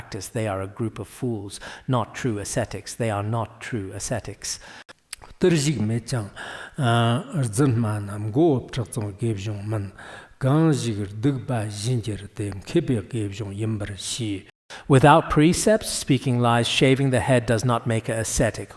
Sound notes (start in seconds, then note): 4.9 giving oral transmission in Tibetan